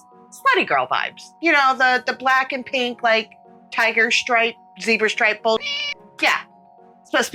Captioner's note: meow